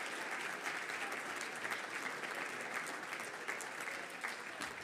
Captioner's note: audience applauding